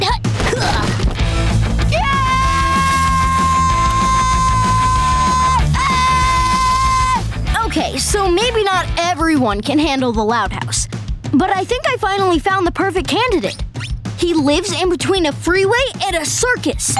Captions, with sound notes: [grunting] [screaming] Okay, so maybe not everyone can handle the Loud House. But I think I finally found the perfect candidate. He lives in between a freeway and a circus.